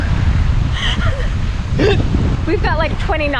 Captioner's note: laugh